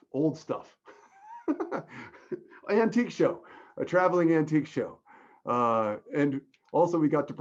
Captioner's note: laughs